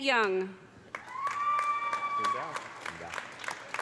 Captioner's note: audience applauding; audience cheering